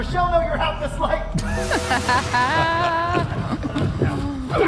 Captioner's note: Michelle laughs